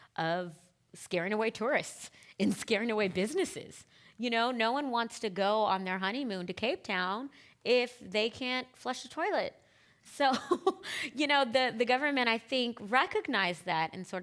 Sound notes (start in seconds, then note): 10.5 laughing